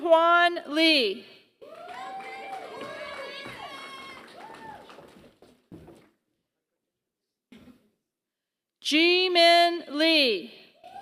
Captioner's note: applause; applause